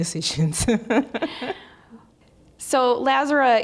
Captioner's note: laughing